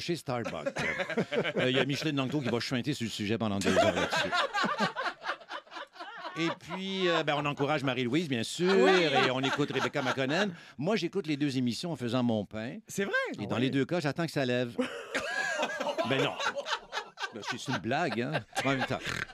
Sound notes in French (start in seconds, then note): 3.6 rires; 14.8 rires